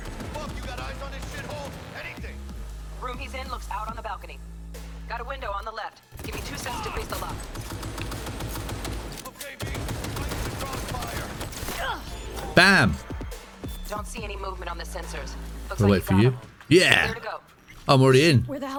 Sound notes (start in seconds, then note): 12.3 grunts